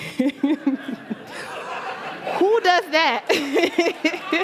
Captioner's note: laughter